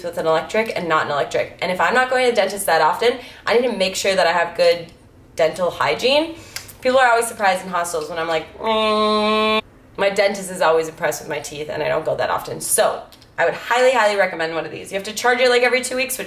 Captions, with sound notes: with an electric and not an electric, and if I'm not going to the dentist that often, I need to make sure that I have good dental hygiene. People are always surprised in hostels when I'm like. (hums) My dentist is always impressed with my teeth and I don't go that often, so I would highly, highly recommend one of these. You have to charge it like every two weeks